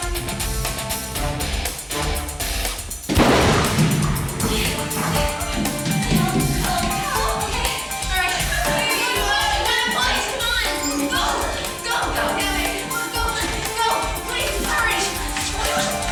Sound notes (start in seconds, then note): 3.1 gun fires